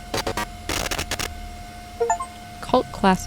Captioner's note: computer static; Steam achievement chime